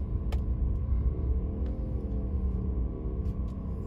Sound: engine roaring

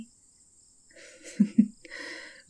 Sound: the other lady laughs politely at the rebuke

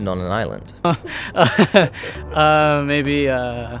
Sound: nervous laughter

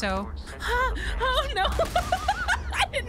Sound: laughter

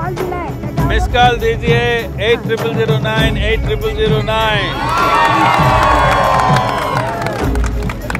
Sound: cheers/Applause

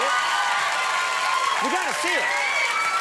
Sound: audience cheers

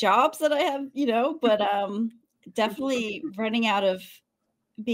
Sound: chuckles

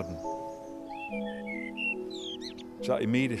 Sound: bird singing

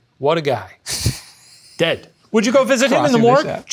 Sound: laughs

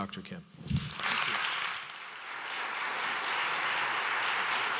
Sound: audience applauds

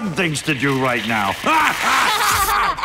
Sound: all laughing

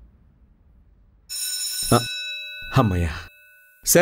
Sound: class session ending bell rings

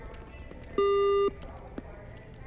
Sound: beep

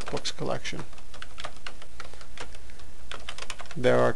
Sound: typing

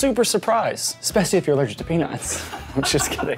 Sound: laughs

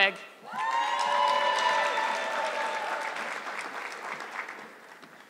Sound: audience clapping

